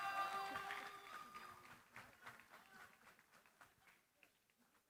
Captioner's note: cheering, applause